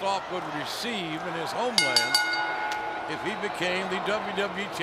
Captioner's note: bell ringing